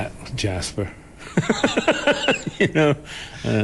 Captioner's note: laughs